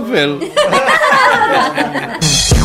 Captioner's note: laughter